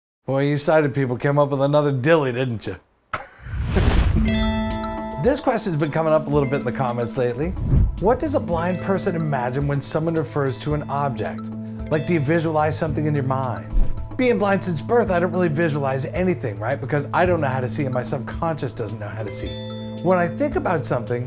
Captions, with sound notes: Boy, you sighted people came up with another dilly, didn't you? [swoosh / music plays] This question's been coming up a little bit in the comments lately. "What does a blind person imagine when someone refers to an object? Like, do you visualize something in your mind?" Being blind since birth, I don't really visualize anything, right, because I don't know how to see and my subconscious doesn't know how to see. When I think about something